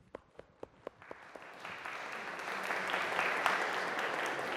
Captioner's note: audience applauds